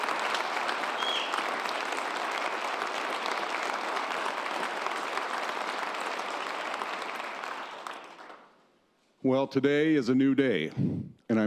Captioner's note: applause